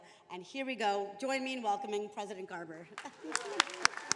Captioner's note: attendees applauding; chuckles